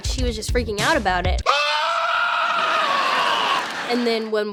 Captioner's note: laughter; scream